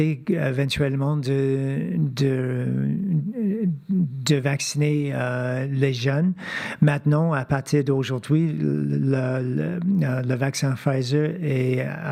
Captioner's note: speaking French